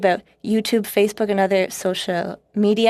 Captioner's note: speaking French